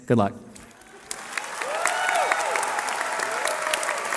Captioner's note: cheering